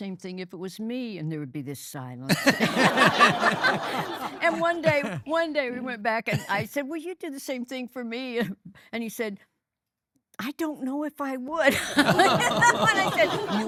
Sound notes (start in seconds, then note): 4.4 both laughing